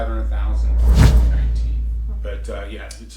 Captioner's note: whoosh